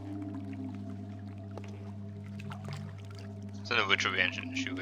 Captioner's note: rushing water